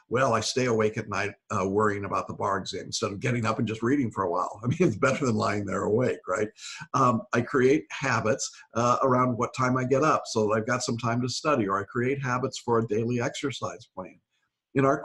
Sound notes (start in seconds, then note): 4.6 laughs